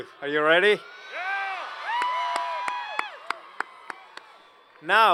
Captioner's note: cheers and Applause